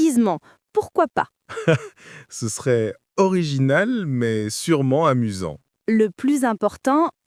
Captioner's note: laughing